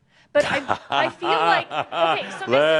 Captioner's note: Adamus chuckles